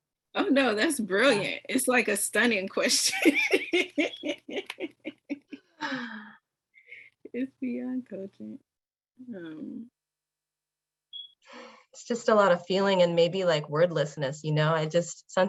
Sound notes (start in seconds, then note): 3.0 laughter